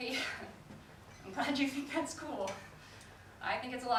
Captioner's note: laughs